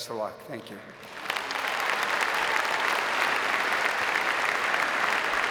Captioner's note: audience applauding